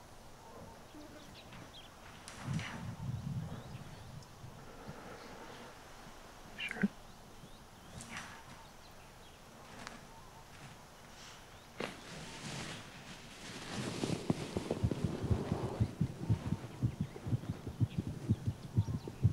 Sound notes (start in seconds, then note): 11.5 sniffles; 14.0 heartbeat pounding